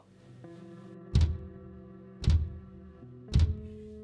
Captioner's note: thudding